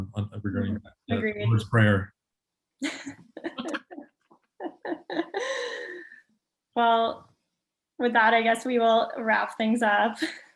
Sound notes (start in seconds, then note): 2.9 all laughing; 9.9 laughs